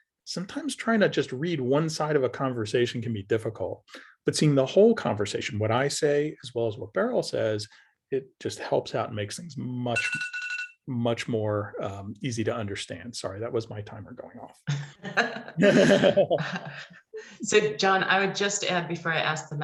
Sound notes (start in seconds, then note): 9.9 ringing sound; 17.3 laughter